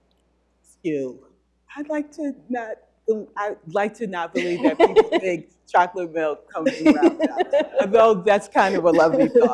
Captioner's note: laughter